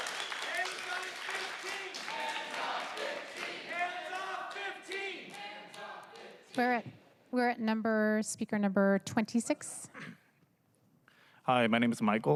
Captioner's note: applause